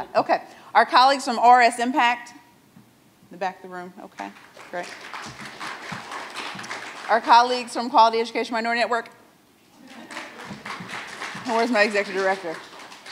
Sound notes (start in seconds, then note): 4.3 audience applauds; 9.8 audience laughs; 9.8 audience applauds